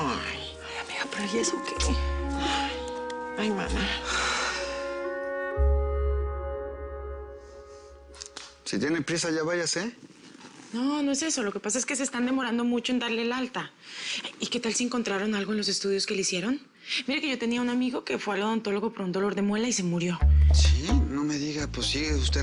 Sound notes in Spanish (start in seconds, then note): 3.7 Vale suspira